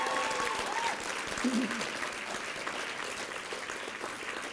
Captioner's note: applause and cheering